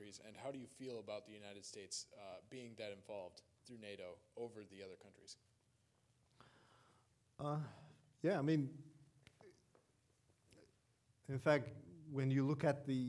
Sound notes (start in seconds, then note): none